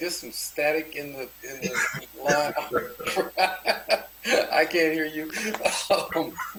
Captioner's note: laughter; laughter